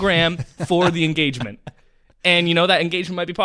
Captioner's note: laughs